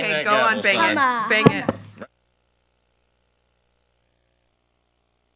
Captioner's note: gavel bangs